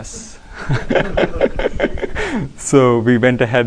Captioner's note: laughter